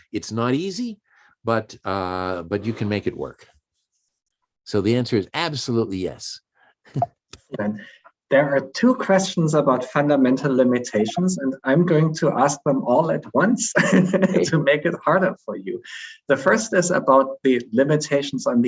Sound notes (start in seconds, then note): 6.9 chuckles; 13.8 laughs